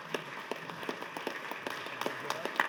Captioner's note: applause